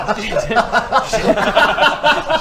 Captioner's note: laughter